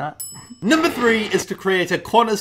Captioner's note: ping